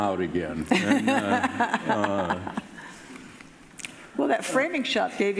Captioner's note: laughing